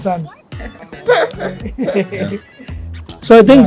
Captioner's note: laughs